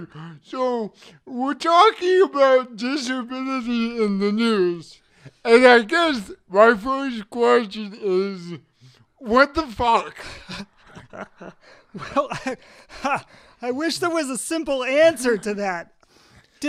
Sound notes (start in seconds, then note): 10.0 laughs; 10.2 chuckles